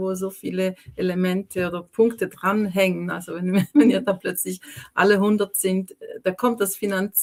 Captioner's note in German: gelächter